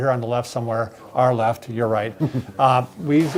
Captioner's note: chuckles